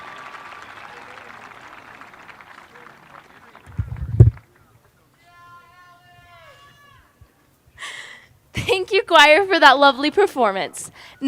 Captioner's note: applause